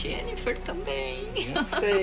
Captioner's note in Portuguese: risadas